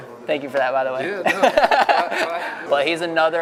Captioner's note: laughs